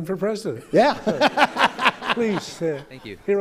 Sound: laughter

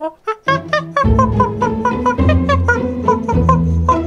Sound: monkey calling

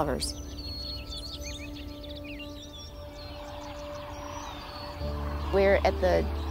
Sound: birds chirping

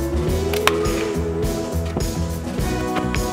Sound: thwack

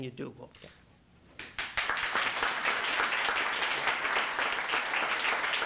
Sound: applause

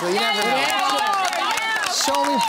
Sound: applause

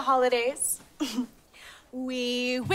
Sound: chuckles

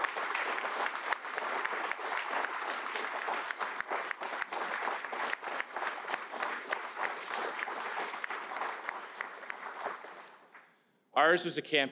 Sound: applause

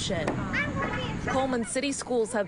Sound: nats: children on playground

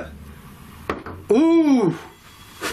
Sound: knocking

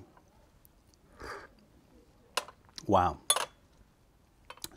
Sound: sips tea

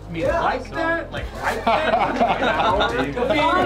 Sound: laughing

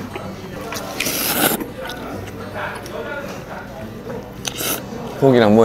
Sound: slurping

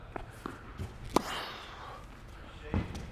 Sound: racket hitting the ball

